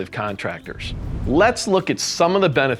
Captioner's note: air whooshing